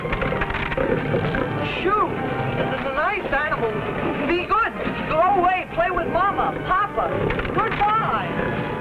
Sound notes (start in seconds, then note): 2.5 stammering